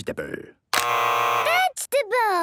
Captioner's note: both buzzing